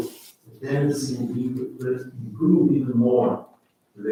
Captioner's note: faintly speaking